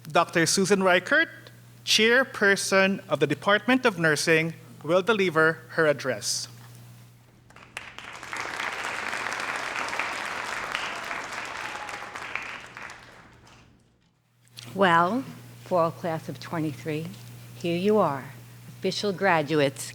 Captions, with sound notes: Dr. Susan Riekert, Chairperson of the Department of Nursing will deliver her address (audience applauding) - Well, fall class of '23, here you are, official graduates.